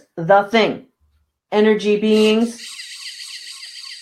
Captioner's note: machine whirring